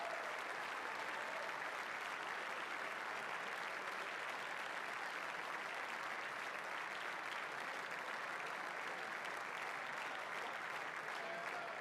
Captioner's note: applause